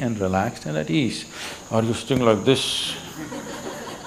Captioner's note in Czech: smích